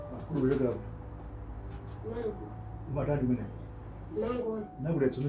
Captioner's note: speaking foreign language